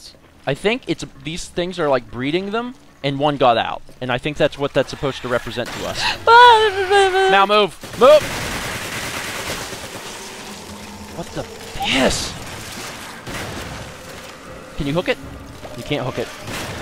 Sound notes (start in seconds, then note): 4.8 more sounds of horror; 5.8 incoherent sound of fear